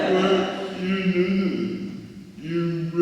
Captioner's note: audience members laughing